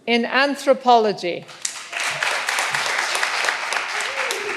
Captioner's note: all applauding